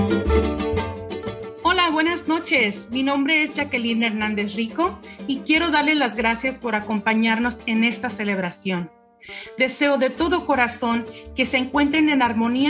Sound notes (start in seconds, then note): 1.6 speaks in foreign language